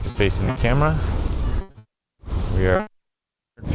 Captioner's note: audio distorts